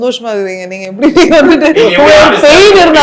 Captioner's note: all laugh